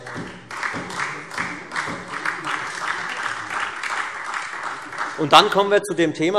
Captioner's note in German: Beifall Freie Demokraten, vereinzelt SPD und DIE LINKE